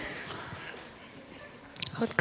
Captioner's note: audience laughter